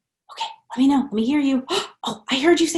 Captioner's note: gasps